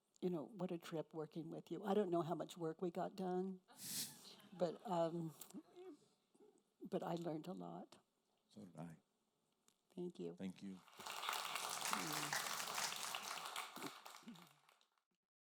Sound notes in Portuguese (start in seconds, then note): 3.9 risos da plateia; 10.8 aplausos da audiência